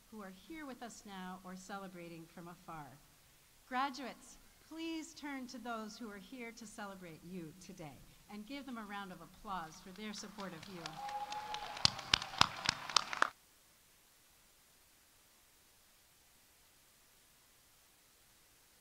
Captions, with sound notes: who are here with us now or celebrating from afar. Graduates, please turn to those who are here to celebrate you today, and give them a round of applause for their support of you. -(audience applauding) -(audience cheering)